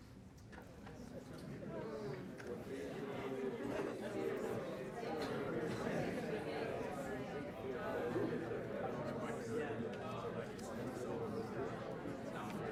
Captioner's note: chatter